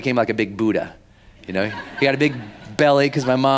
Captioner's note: laughing